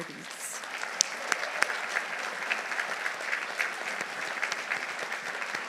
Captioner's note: audience applauding